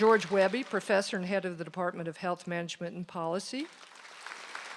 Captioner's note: applause